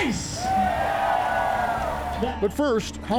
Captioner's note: crowd cheering